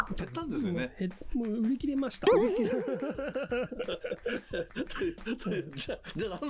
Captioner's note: laughs